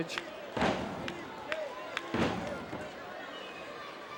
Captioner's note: crowd murmuring